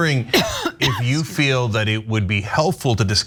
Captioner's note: cough